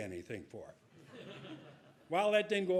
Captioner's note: audience laughing